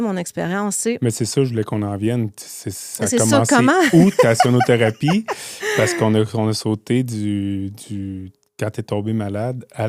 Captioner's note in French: rires